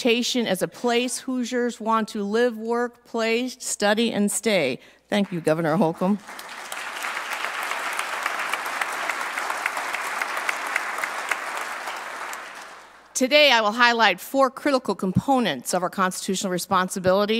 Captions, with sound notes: UPHOLD INDIANA'S REPUTATION AS A PLACE HOOSIERS WANT TO LIVE, WORK, PLAY, STUDY, AND STAY. THANK YOU, GOVERNOR ERIC HOLCOMB. [APPLAUSE ] TODAY, I WILL HIGHLIGHT FOUR CRITICAL